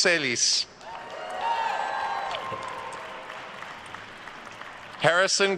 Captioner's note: attendees cheering and applauding